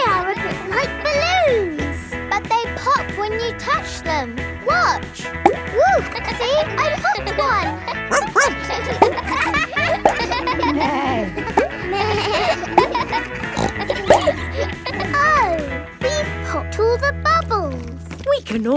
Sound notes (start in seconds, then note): 6.4 kids laughing; 8.0 barks; 11.1 bleats; 11.1 neighs; 14.0 snorts